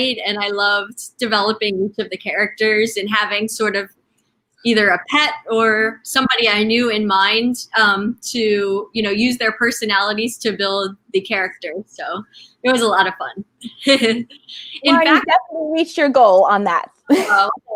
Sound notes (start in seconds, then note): 13.7 chuckling